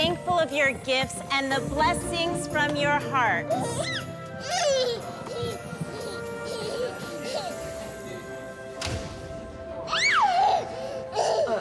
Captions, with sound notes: of your gifts and the blessings from your hearts. (baby cooing) (baby screams happily)